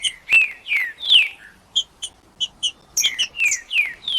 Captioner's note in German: trinca ferro cantando